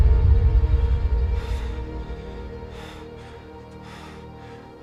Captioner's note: ominous music; Aiden panting